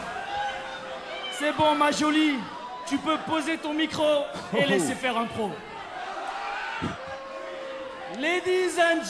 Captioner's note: speaking in foreign language